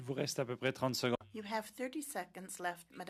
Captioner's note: speaking French